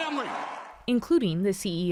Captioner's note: cheering